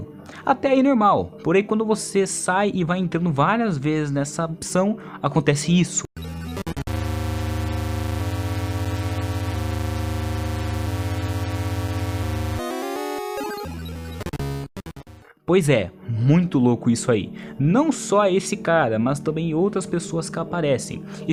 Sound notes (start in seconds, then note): 6.3 static sound and disturbing images